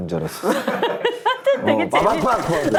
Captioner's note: hahaha